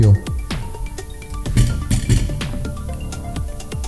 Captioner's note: tiếng động của motor khi có điện/ the sound of motor with power plugged in